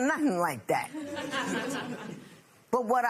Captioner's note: chuckling